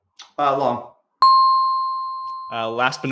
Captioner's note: bell dings